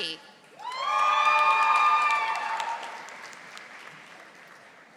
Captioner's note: audience applauding